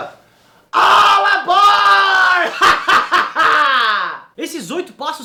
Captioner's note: lawful evil crazy laugh